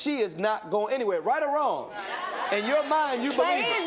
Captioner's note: audience stirs